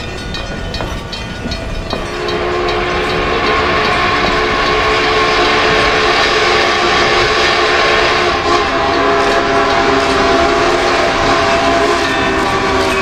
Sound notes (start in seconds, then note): 2.1 UP FEF Whistle